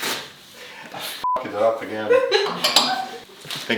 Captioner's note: beep